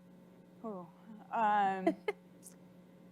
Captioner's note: laughs